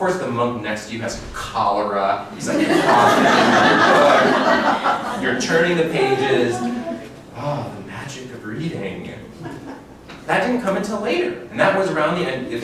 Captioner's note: laughter